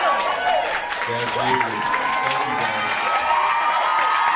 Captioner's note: audience cheers; audience cheers and screams